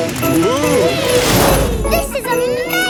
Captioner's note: all exclaiming